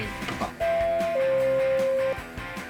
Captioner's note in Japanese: チャイム音